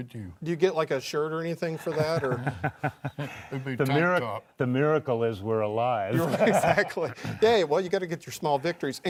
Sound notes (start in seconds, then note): 1.8 laughing; 6.2 laughing